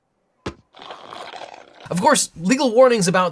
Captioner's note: sipping soda